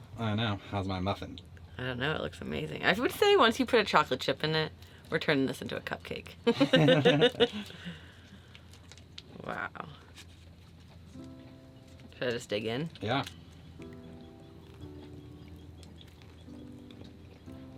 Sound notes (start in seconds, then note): 6.5 chuckling; 15.0 light music